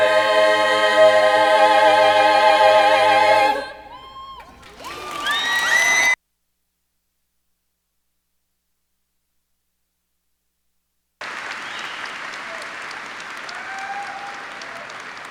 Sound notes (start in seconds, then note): 5.1 cheers and applause